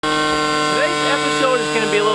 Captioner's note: drone motor whirring